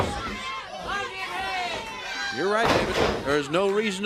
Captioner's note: crowd chatter